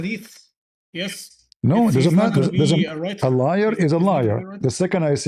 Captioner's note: Arabic